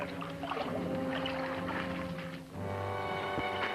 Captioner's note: water sloshing; dramatic music